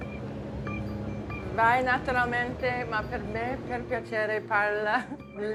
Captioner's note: speaking Italian